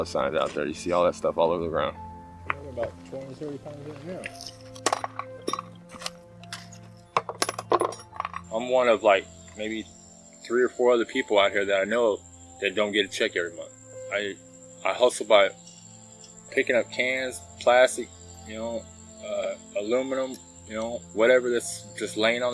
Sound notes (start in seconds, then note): 5.3 metal clanging